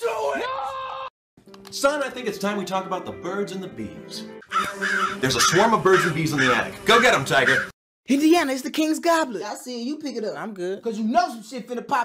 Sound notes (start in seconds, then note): 4.4 buzzing and cawing